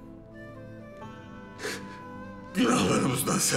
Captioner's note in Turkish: Ağlama sesi